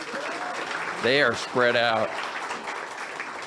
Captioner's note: audience applauds